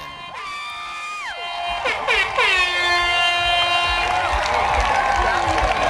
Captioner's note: cheers